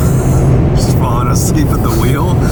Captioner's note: laughs